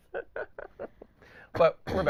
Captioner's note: laughing